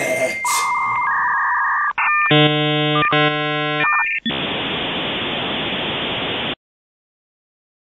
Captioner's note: the sound of the dial-up modem connection